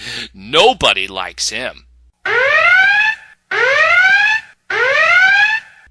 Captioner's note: chuckle; siren Sound